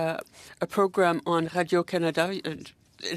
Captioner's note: speaking French